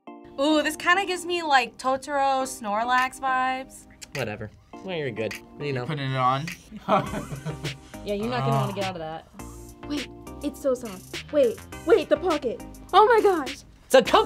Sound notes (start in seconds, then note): 6.7 laughs